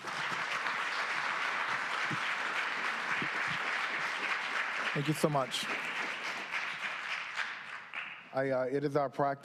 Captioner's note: applause